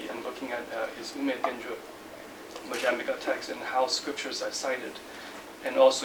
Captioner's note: non-english speech